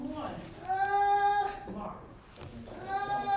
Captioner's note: woman wailing